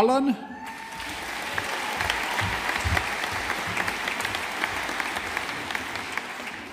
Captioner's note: audience applauding